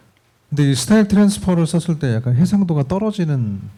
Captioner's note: speaking korean